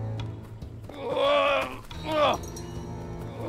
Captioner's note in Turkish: Bağırma sesi